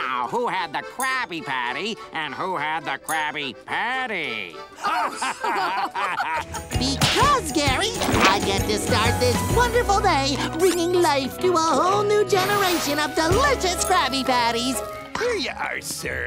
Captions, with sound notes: who had the Krabby Patty and who had the Krabby Patty? [laughing] Because Gary, I get to start this wonderful day bringing life to a whole new generation of delicious Krabby Patties. Here you are sir.